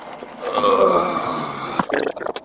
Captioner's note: groaning